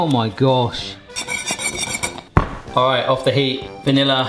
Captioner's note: whisk scraping pan